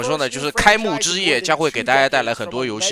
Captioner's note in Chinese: 大笑